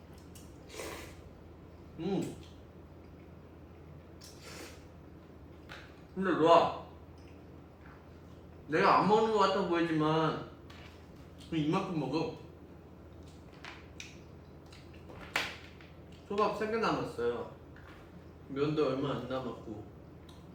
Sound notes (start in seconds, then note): 0.6 slurps